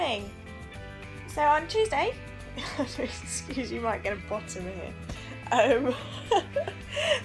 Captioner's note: giggles